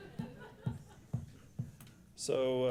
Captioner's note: laughs